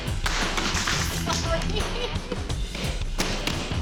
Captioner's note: laughing